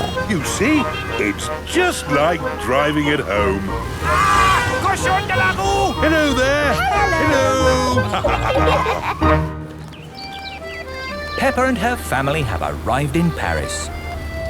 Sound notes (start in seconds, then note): 4.6 yells; 8.4 laughter